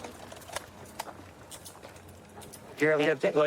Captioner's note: handcuffs clicking